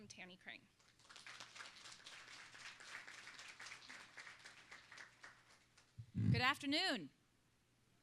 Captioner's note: applause